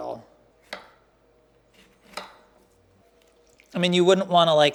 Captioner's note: knife hits chopping block